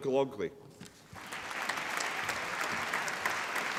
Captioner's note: applause